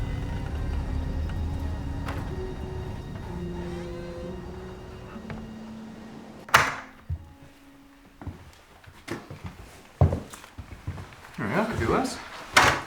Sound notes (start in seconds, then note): 5.2 closes door; 6.6 opening door